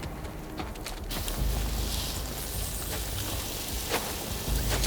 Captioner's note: flame hissing